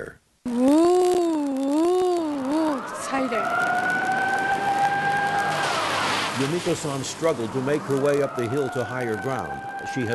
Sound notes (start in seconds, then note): 2.4 sirens wailing